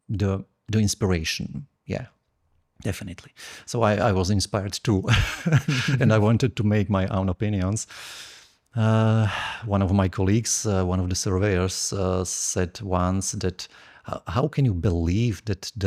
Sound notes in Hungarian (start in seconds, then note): 5.0 nevetés; 8.8 sóhaj